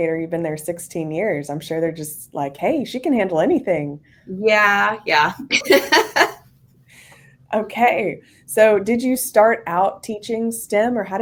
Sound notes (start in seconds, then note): 5.4 laughs